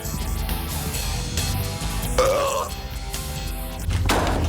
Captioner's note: man burps